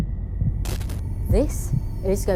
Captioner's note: static crackles